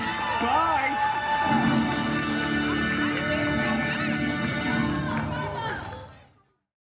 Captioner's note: guests cheering and applauding